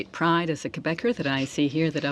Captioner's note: speaking French